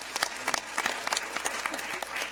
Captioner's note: applause